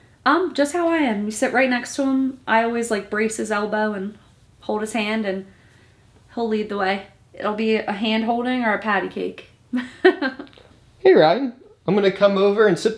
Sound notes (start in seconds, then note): 9.8 laughs softly